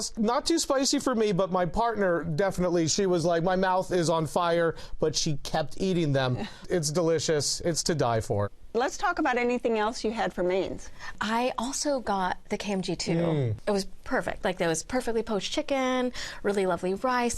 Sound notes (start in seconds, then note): none